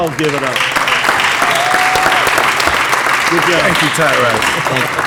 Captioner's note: applause